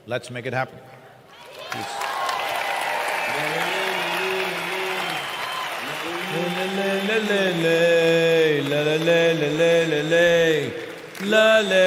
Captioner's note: cheering/Applause